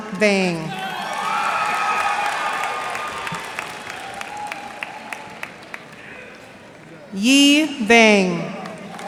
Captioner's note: cheers and applause